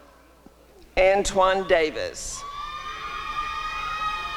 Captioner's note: applause and cheering